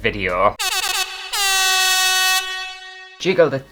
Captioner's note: air Horn!!